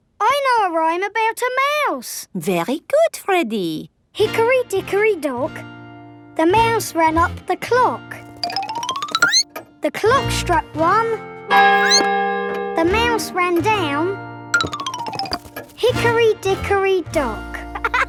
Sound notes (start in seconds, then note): 11.7 squeaks; 11.7 clock chimes